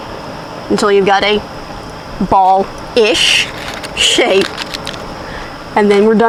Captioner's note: chuckles